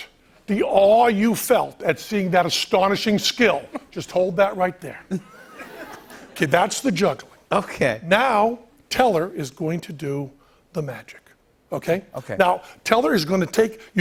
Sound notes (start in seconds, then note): 5.1 laughter